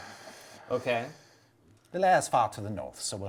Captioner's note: exasperated sigh